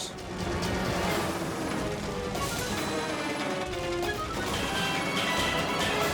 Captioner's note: dramatic music; helicopter droning